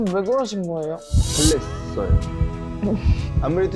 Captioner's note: heartbeat